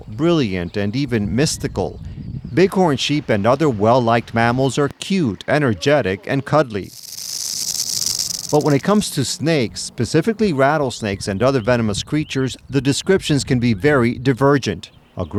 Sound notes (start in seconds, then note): 6.8 snake rattle